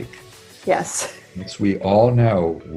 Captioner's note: chuckling